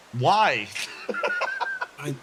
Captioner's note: laugh